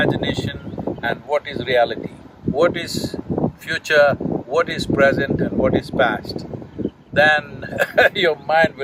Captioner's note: laughs